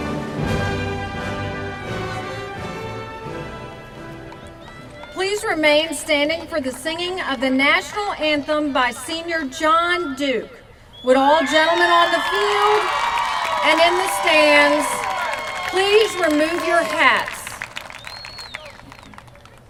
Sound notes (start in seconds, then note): 11.0 cheers from crowd